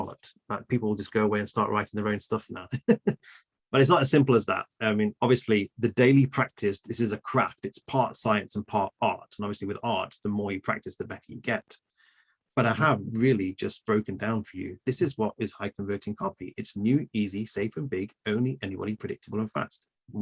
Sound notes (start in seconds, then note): 2.7 laughs